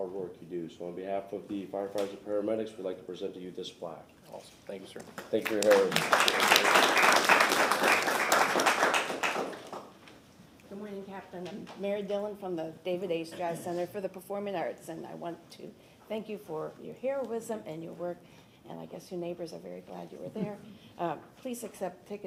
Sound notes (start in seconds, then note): 10.6 applause